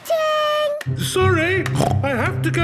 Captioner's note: snorts